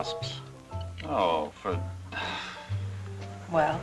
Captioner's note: scoffs